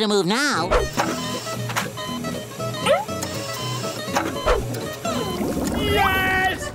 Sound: beeping

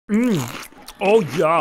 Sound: crunch

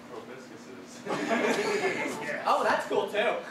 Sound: audience laughter

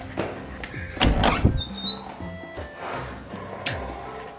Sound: door opens

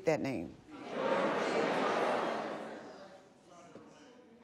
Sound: audience speaking

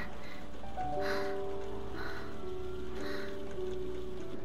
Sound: heavy Breathing

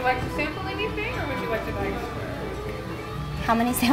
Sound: speaking away from mic

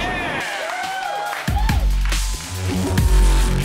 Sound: cheering and clapping

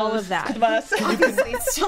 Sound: all laughing

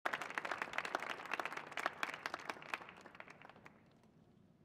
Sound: audience applauding

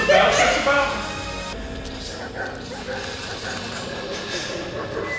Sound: dogs barking

